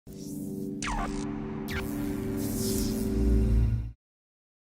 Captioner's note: electricity zapping